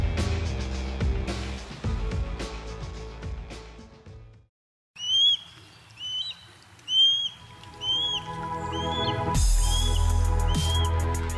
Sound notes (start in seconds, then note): 4.9 bird chirping; 8.4 upbeat music